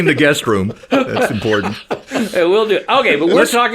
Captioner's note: laughing